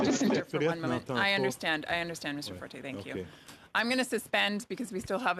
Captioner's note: mixed voices